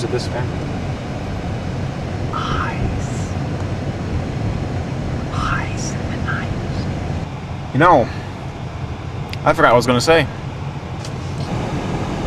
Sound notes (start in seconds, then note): 3.4 whispering